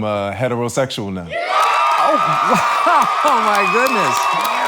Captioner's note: audience cheers